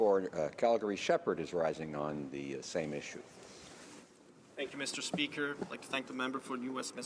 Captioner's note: some Applause